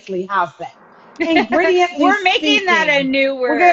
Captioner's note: chuckles